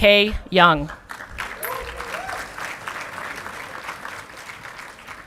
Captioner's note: audience clapping